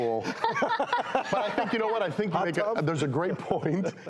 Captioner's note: all doctors laugh